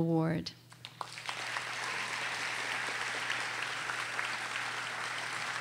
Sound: audience applauding

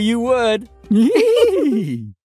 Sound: childish giggling

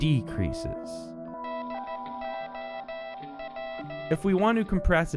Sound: morse code

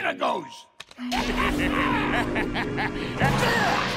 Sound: laughing

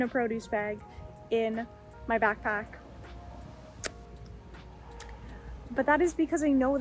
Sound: lip smack

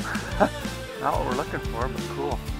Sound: laughs

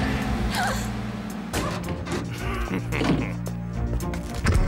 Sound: gasps

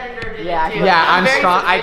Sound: boys arguing

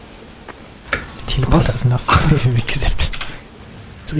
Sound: laughing

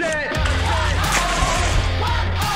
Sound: fish splashing; heavy rock music

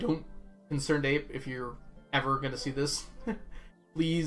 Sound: chuckles

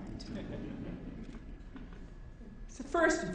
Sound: audience laughing

